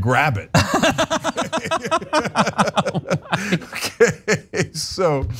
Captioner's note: laugh